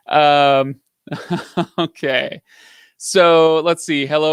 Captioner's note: laughs